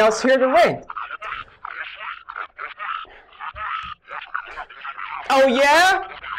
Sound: furious distorted mumbling

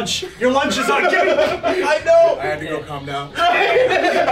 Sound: laugh

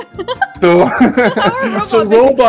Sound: laughs

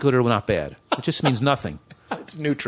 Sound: laughter

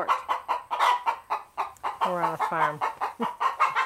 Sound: chickens clucking

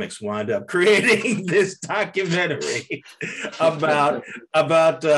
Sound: laughing

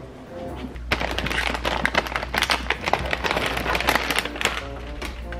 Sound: bags crinkling

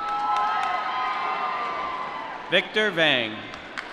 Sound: applause

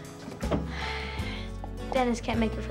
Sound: sighs

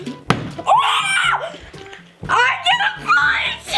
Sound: bottles landing; cheering

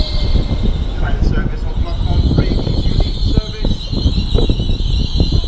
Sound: station announcement in background

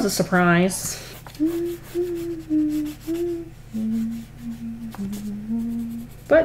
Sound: humming

